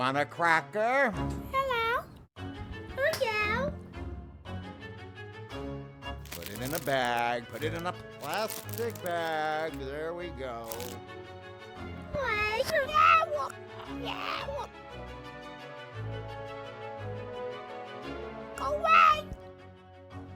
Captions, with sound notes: - Polly want a cracker? - Hello. - Put it in a bag, put it in a plastic bag. There we go. [Rainbow jabbering] [bright music] Go away!